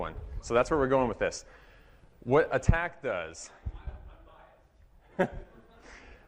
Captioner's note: laughter